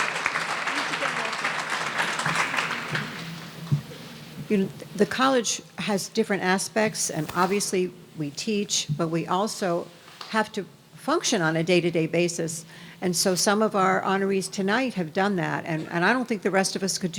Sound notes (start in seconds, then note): 0.0 speaking drowned out by audience applause